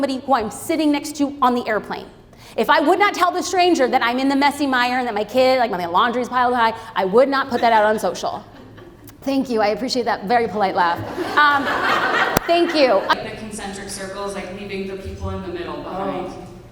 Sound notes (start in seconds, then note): 8.5 audience laughs; 10.9 audience laughs